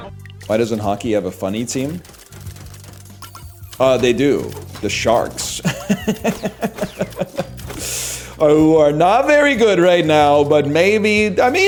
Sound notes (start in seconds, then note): 5.3 pedantic laugh